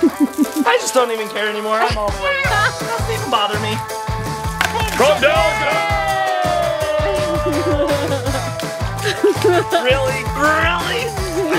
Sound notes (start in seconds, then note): 1.8 laughs; 5.3 cheers and laughs